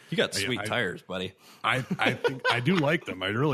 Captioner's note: laughter